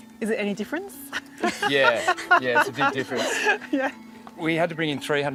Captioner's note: laughs